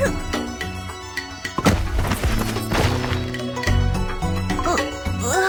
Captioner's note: bang! Rumble! Tumble tumble! Crash